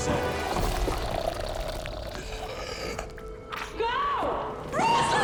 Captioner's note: creature groaning